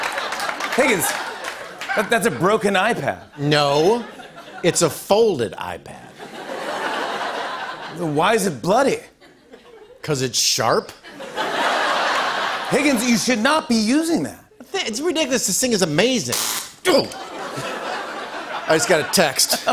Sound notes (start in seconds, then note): 6.2 laughter; 11.0 laughter; 16.3 electricity zaps; 17.0 laughter